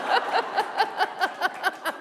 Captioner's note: laughter